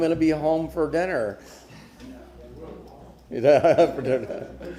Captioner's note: laughter